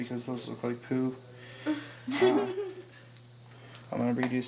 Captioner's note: giggles